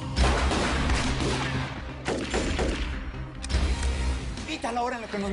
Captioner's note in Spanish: Disparos